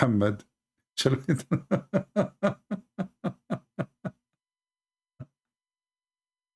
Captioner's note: Ketawa